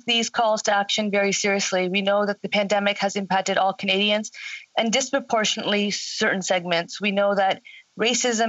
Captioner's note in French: voix de l'interprète